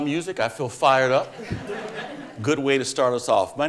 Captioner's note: audience laughing